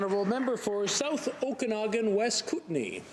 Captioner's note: applause